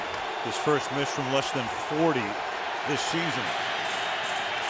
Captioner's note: crowd cheering